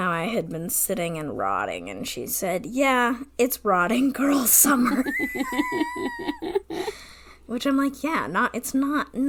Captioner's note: laughs